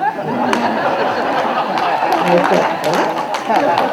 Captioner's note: crowd laughs